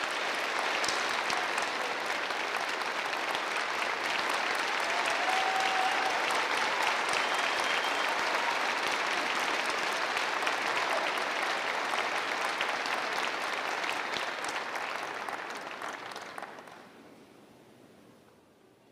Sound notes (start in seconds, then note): 2.4 applause